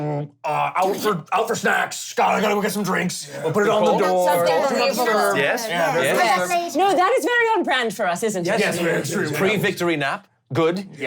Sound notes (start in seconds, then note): 3.4 all yelling and talking